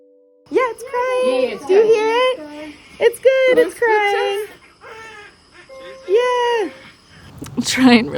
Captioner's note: newborn crying